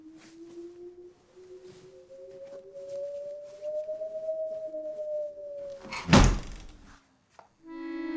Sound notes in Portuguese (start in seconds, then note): 2.3 vento forte